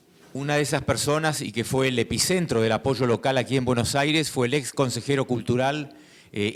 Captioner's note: speaking in foreign language